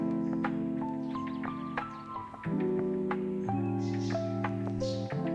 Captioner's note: morning birdsong continues